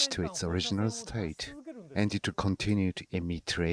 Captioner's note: speaking Foreign Language